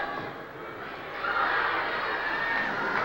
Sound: screams

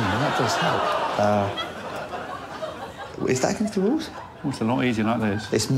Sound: laughter

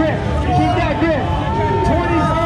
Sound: cheering

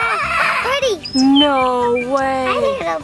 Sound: bird squawking; bird tweeting

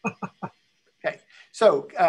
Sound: laughs

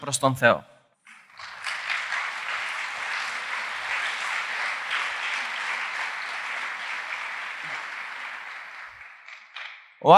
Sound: applause

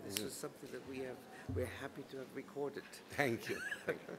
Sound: laughs

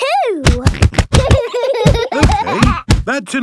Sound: banging

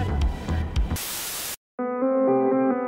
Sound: static

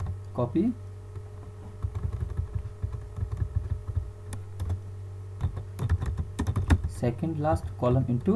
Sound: typing Sound

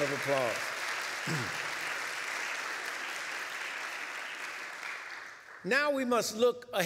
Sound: applause

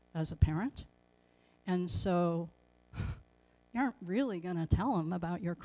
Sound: sigh

